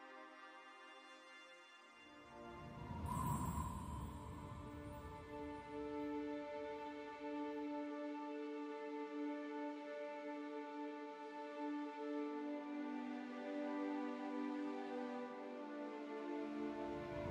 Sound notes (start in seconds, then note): 0.1 dreamy electronic music fades out; 3.4 sound of cold wind; 5.5 sad music